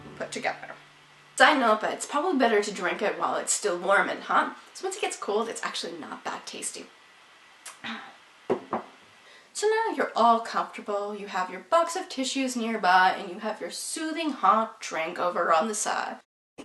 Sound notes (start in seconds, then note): 7.8 disappointing drink sigh; 8.5 cup clinks on wooden surface